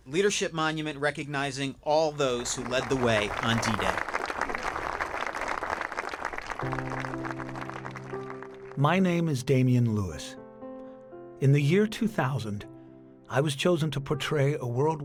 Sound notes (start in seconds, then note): 4.2 spectators applauding; 7.2 pensive music